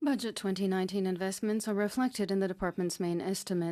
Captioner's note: speaking French